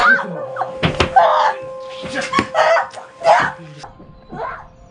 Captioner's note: screaming